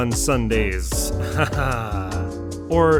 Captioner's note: fake laugh